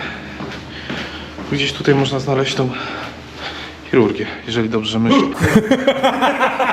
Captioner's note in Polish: śmiech